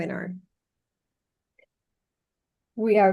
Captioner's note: silence